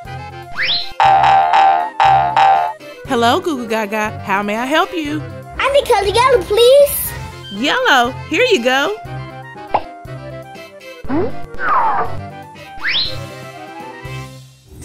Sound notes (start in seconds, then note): 0.5 various cartoon sound effects; 9.6 popping sound effect; 11.0 various cartoon sound effects